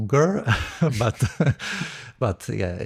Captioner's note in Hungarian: nevetés